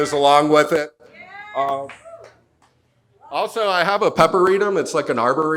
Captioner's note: audience cheers